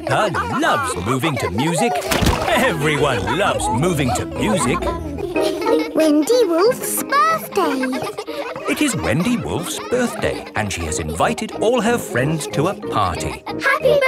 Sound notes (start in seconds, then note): 8.5 kids laughing